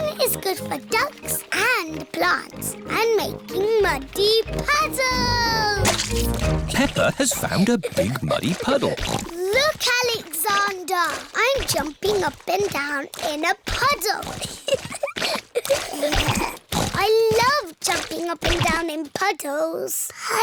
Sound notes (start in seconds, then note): 7.8 snorts; 15.1 giggling